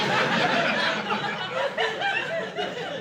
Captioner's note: laughter